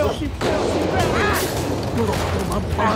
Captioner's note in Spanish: Disparos